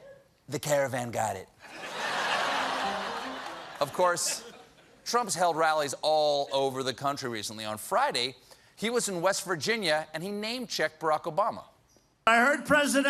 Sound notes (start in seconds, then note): 4.2 laughter; 4.6 piano riff